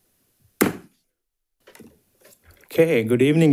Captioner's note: hammer slamming